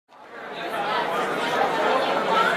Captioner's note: chatter